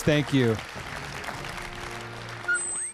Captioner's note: applause